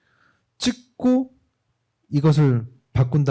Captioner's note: speaking korean